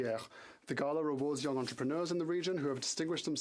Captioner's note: speaking French